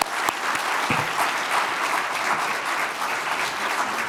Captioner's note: audience applauding